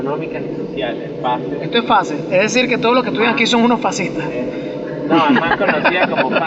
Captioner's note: laugh